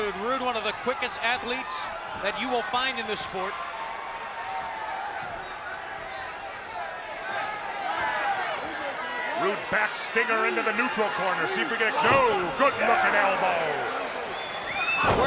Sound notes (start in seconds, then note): 4.4 spectators cheering